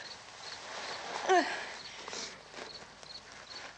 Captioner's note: Barbra groans